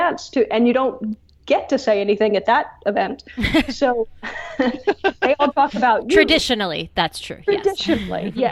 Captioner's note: laughs